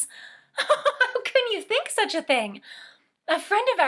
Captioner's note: laughing